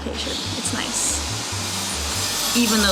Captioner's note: loud buzzsaw noises